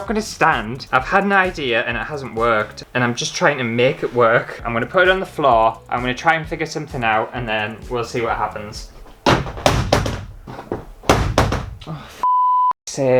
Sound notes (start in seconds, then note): 9.2 plastic Hitting The Floor